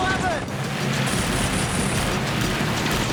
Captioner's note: gunshots